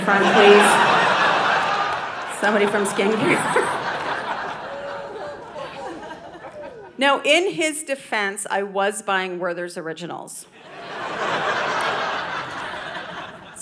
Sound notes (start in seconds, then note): 0.0 audience laughing; 10.6 audience laughing